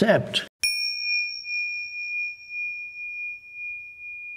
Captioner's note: chime rings